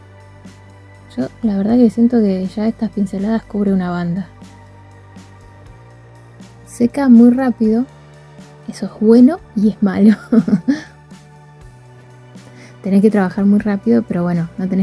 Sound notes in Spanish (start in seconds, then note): 10.0 risas